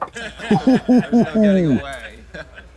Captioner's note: Katya hoots